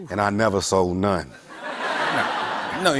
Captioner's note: laughter